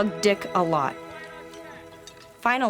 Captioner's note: voices offscreen